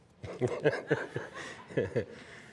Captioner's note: chuckling